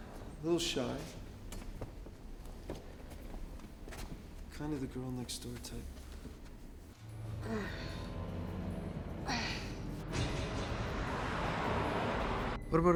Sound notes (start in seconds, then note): 7.4 sighs; 10.3 tense music